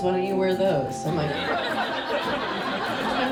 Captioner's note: audience laughs